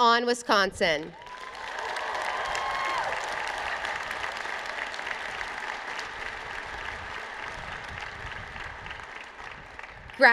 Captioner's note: applause